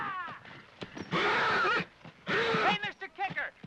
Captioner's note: Lee yells at horse; hooves pound; horse grunts; horse neighs in distress